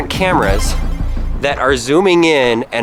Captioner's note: power up sound